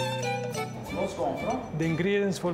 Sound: upbeat folk music; speaking Italian

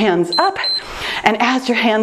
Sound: timer beeps

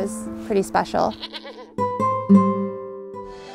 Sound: bleating; light music

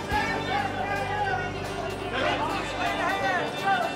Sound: crowd shouting

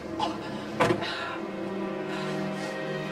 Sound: gasping

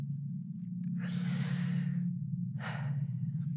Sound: sigh

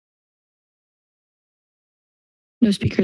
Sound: silence

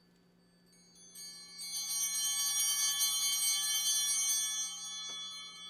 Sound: bell ringing

